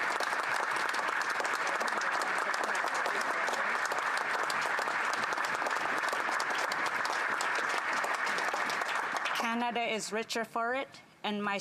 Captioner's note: applause